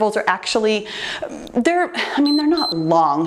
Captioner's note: timer beeps